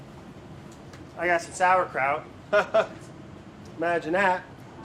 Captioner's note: laughs